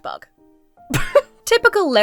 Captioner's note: splutters